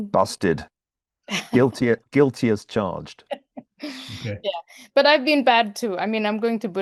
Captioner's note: laugh